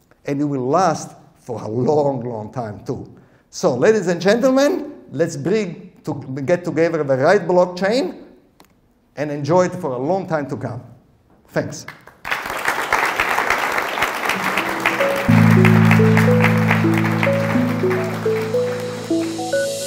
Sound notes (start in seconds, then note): 11.9 crowd clapping